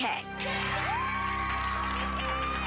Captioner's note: applause